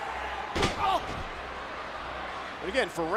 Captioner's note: Batista yells